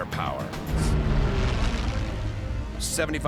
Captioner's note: engines whining